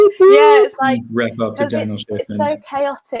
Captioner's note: group chattering